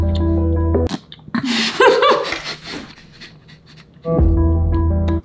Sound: light music continues; laughing; light music continues

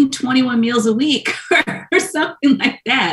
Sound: laughs

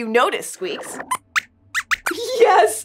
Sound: squeaks squeaks

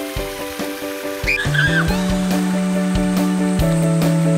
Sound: Ru screeming

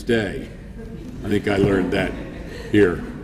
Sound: laughing

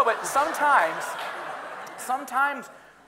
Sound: audience laughing

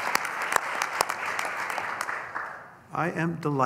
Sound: applause

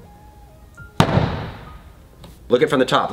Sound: bottle slams

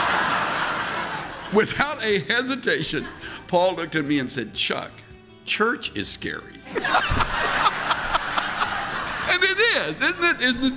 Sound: laughter

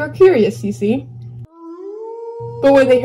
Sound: howl

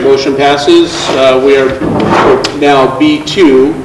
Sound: chair scrapes

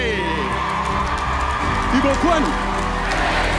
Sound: audience cheering and applauding

